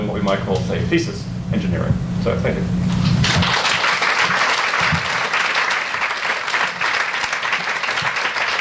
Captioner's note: audience applauds